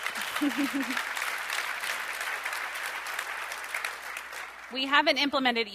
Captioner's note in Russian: аплодисменты